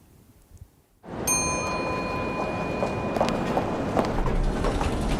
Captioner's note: elevator ding